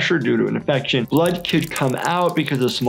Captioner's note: blood dripping